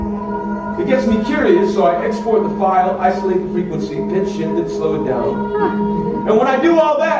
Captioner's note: eoeooooeooeoweeoooo